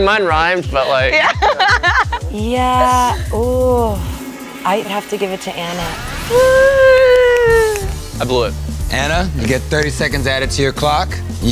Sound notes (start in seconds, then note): 1.0 laugh